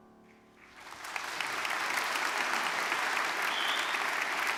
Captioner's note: audience clapping